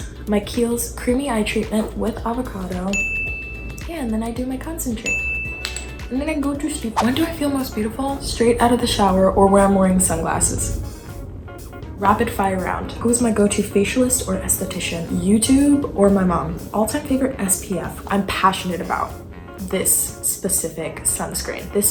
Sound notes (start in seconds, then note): 2.9 chime; 5.0 chime